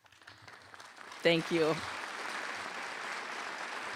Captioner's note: applause